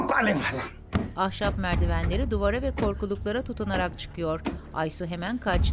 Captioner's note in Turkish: Ayak sesi